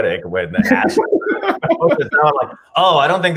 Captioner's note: laughs